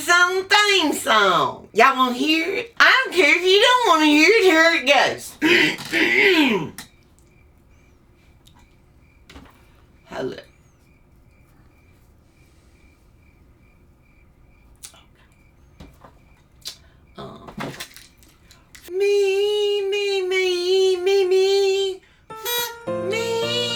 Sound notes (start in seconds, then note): 5.4 clears throat; 11.4 piano plays; 22.3 hums